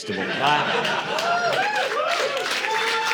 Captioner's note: audience laughing; audience cheering